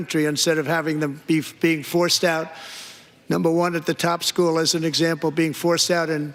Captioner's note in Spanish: none